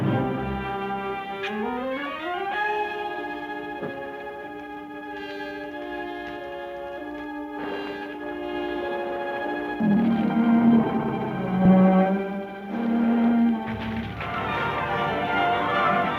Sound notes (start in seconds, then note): 9.8 crocodiles growling; 13.6 fire crackling